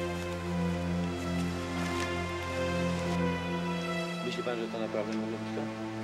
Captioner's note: speaking Polish